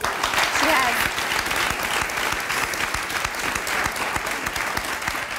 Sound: audience claps

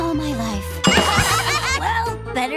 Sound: laughing

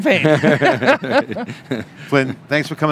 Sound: laughter

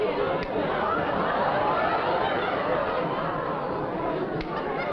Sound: chatter

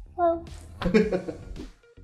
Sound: laughs

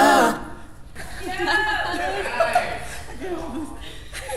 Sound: group giggling

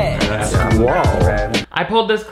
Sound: overlapping chatter

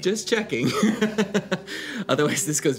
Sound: laughs

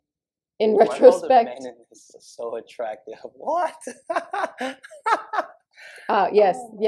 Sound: embarrassed laughter

